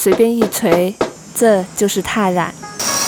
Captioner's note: leaves pounding